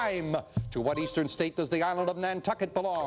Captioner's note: beeping